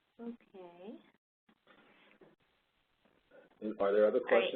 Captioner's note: 2 seconds pause